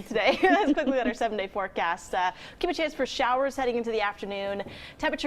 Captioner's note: laughter